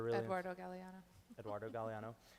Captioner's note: chuckles